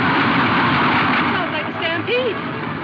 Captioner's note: horses galloping